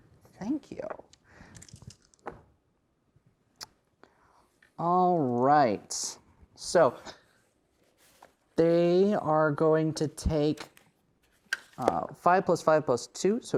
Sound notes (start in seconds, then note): 1.5 dice rattling; 1.6 dice rolling